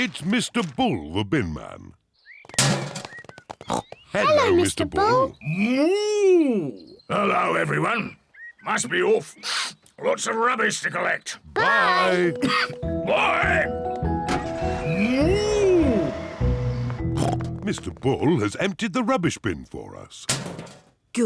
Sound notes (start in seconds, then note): 2.5 bin clangs; 3.6 snorts; 16.9 snorts